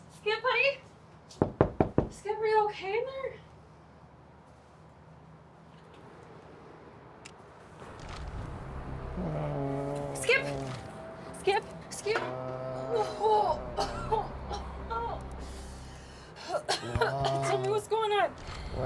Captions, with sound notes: Skip, honey, (knocks) Skip, are you okay in there? (Skip moans) Skip, Skip, Skip? (coughs) (Skip moans) Tell me what's going on.